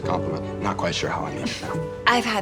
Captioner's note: chuckles